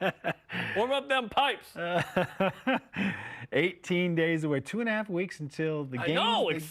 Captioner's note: laughter